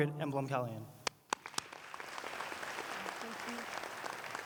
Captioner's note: applause